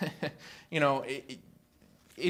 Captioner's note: laughter